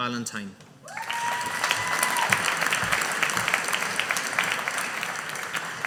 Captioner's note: audience applauding